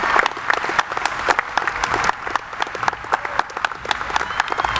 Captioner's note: audience applauding